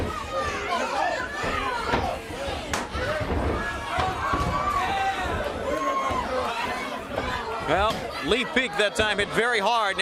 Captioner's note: crowd chatter